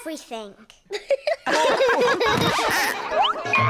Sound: all laugh

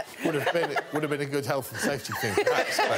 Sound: all laughing; laughs

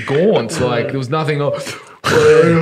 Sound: groaning

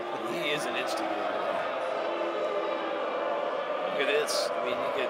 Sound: crowd Booing

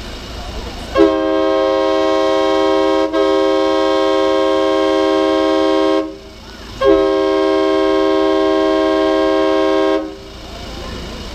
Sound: loud air horn

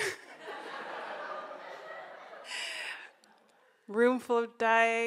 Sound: audience laughs

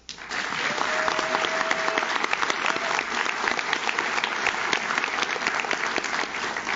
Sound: audience claps; audience cheers

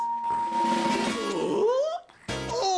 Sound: gasps

